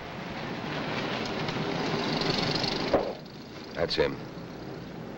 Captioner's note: car rumbling